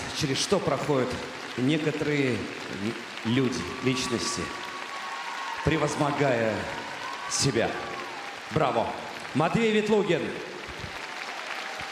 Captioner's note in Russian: аплодисменты